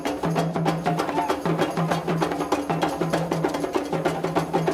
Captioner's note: man vocalizing